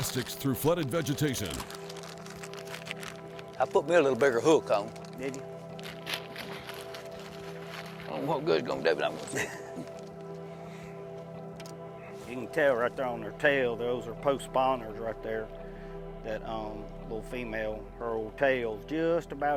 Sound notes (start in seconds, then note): 9.2 laughs; 9.4 slurs speech